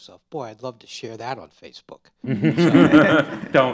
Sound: laughter

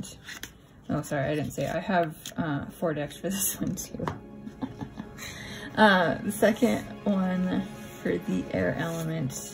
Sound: laugh

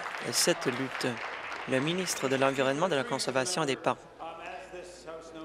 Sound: applause

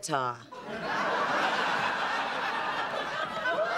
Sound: laughter

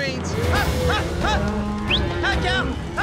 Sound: booger whistling

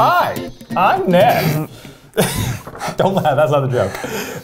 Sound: sniggers

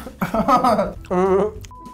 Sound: laughs

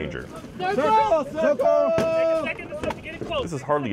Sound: yelling

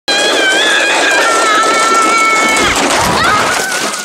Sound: screaming

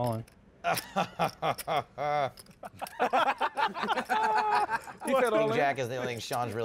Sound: laughter

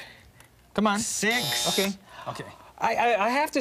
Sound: timer buzzing

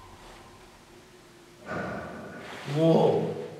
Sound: bang

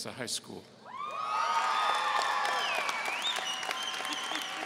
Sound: audience cheering

